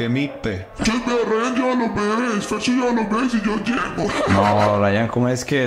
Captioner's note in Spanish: risas